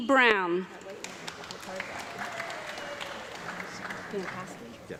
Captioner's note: audience clapping